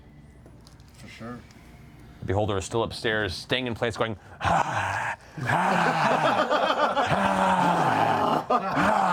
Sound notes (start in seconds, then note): 7.0 hoarse screaming; 8.6 laughter